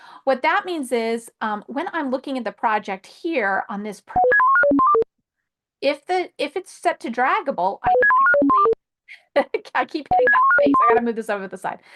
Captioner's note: beeping sound